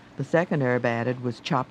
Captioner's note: voiceover